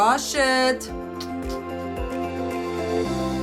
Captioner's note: kissing; uplifting music